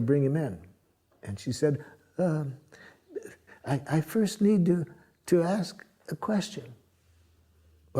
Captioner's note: voix hésitante